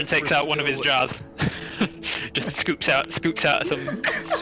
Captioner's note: laugh